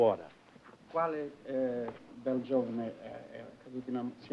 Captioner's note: speaking italian